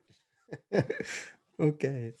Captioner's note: laughs